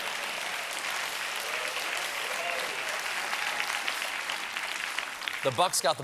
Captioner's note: applause